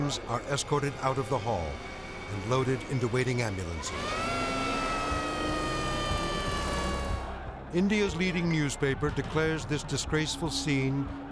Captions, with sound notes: are escorted out of the hall and loaded into waiting ambulances. (siren blaring) India's leading newspaper declares this disgraceful scene,